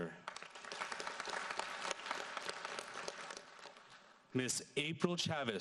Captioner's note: audience applauds